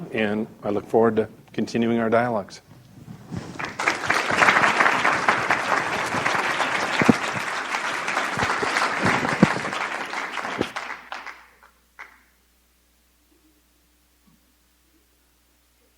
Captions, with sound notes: and I look forward to continuing our dialogs. (audience applauding)